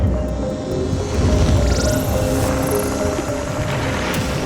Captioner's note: machinery whirring